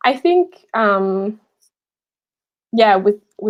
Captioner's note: none